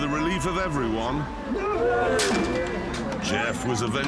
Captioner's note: crowd gasps